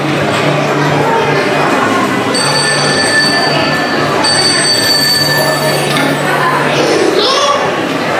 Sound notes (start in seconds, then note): 2.3 old style analogue telephone ringing; 5.5 Grover on telephone call about mysterious cookie disappearance